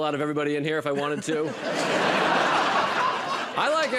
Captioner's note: laughter